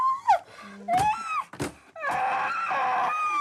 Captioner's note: whimpers, growls; shrieks